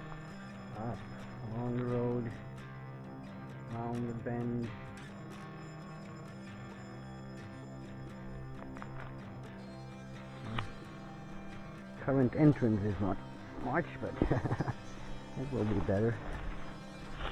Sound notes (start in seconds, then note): 14.1 laughter